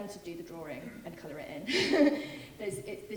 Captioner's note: laughing